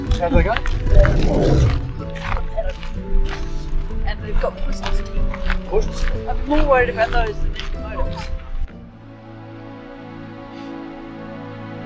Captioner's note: seal roaring